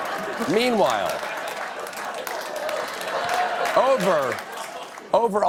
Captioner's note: laughter; applause